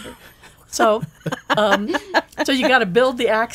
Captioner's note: laughing